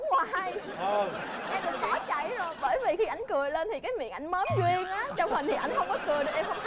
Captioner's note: laughing